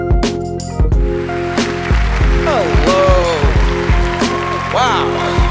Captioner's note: applause